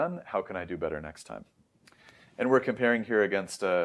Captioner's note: lips smack